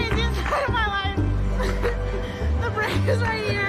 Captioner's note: laughing